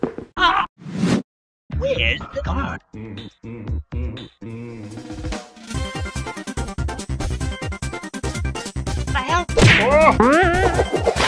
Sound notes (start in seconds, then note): 9.5 punch